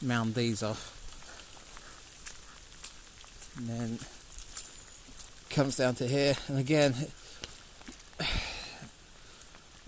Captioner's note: sigh